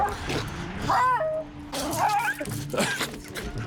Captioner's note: Sorbon barking; dog barking